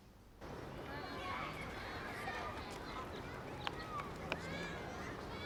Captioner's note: children chattering